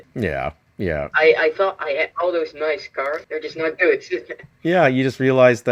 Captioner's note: laughs